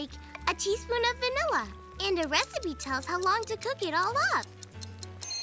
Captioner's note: timer Ticking; buzzes